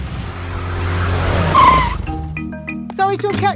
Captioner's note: brakes squeal; car engine starts